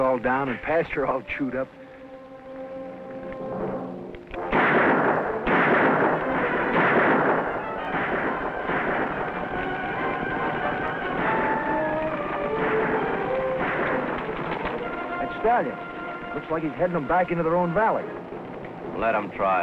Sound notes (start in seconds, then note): 4.7 gunshots; 8.4 intense dramatic music